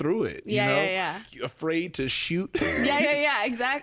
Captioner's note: laughs